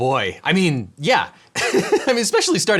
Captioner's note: laughs